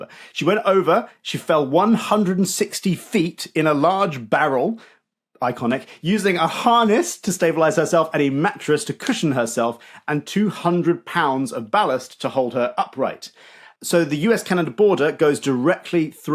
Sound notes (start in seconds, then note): none